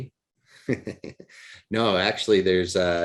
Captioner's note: laughs